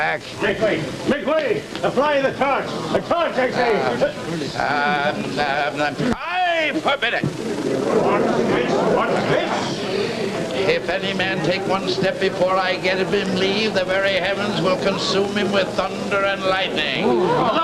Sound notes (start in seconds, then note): 4.3 sputtering